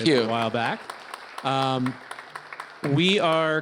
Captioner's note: applause